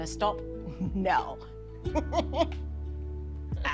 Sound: laughs

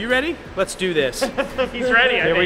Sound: laughter

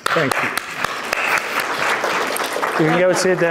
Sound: audience applauding

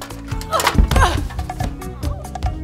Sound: thump and crash

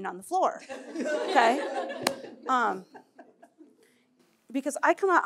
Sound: laughter

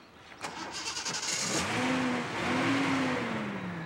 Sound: car engine roars

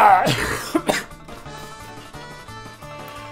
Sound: crying

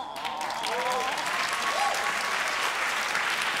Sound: applause

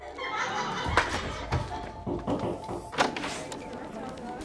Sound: people laughing

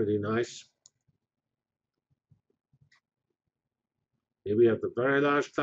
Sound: pause

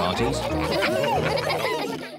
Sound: all laugh

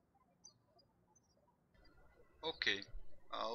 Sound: birds chirping

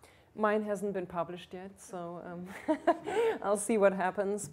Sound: laughs

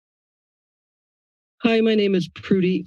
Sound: silence

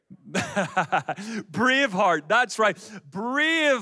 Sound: laughs

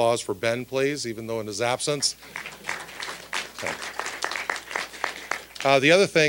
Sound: applause

